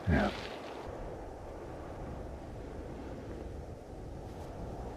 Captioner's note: wind humming